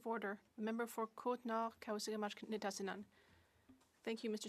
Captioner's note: speaking French